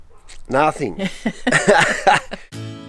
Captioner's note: laughs